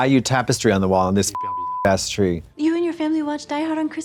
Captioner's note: beep